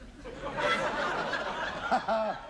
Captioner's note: laughter